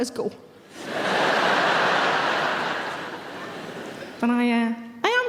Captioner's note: audience laughs